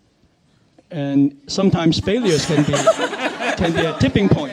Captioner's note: panelists laughing